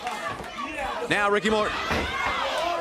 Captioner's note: crowd chatter